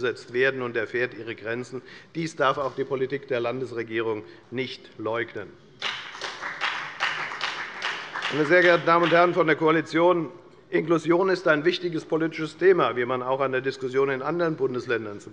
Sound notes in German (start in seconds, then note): 5.8 Beifall bei der FDP